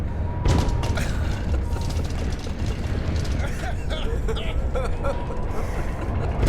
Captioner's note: banging and rattling; laughing